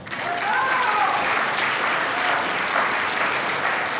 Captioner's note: applause